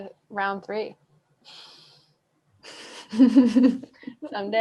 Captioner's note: giggles